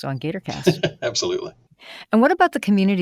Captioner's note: laughs